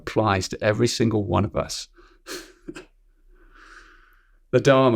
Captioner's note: chuckles